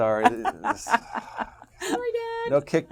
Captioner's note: laugh